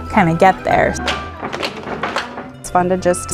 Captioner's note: clap, clap, clap